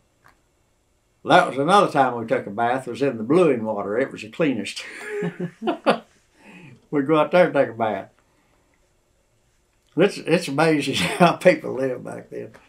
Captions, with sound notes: That was another time we took a bath, was in the bluing water. It was the cleanest. (Laughs) We would go out there and take a bath. It’s amazing how people lived back then.